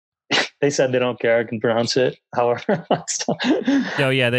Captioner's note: laughs